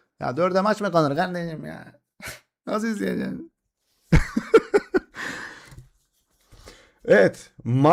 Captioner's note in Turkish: kahkaha